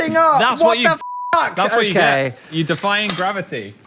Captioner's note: beep